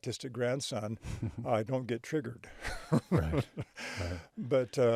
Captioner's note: chuckles